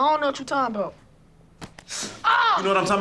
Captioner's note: sucks teeth